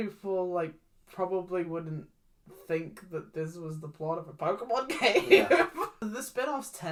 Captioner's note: laughs